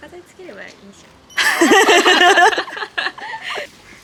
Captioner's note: laughs